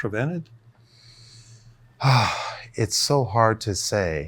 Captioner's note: breathes deeply